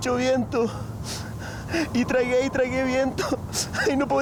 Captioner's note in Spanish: Llorando; Llorando